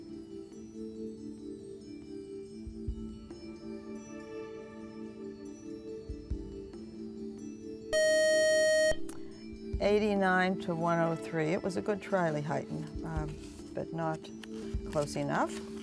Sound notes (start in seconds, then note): 7.9 beep